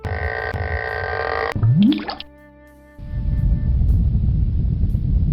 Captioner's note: sound effects play